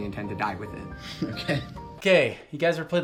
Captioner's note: laughing